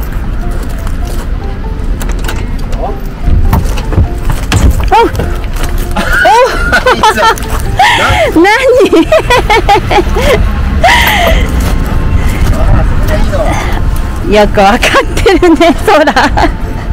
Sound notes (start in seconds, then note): 5.9 laugh